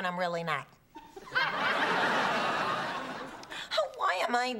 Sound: laughter

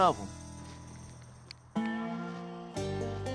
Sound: gate opener clicks

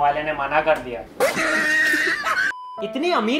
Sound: that one laugh track EVERYONE JUST LOVES

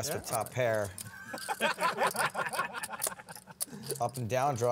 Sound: laughter

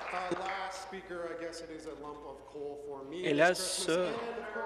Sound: applause

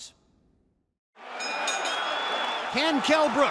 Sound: bell dinging

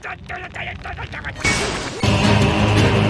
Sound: door Breaks

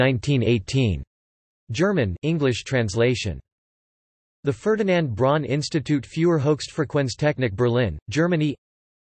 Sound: German

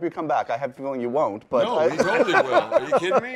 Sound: laughs

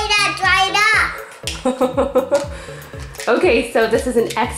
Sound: mom laughs

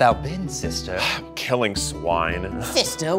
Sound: sighing

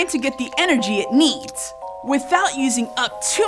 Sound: squirrel crunching

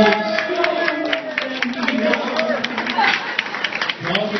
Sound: cheering

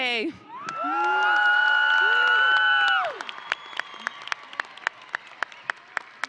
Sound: audience and graduates cheering

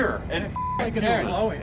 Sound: beeps

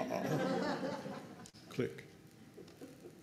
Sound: laughter

